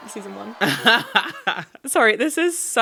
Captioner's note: laughing